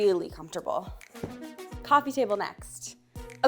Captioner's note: hands thumping